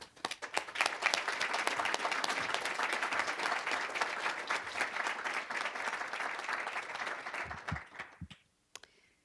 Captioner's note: applause